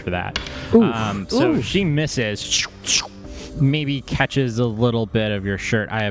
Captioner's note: makes two slashing sounds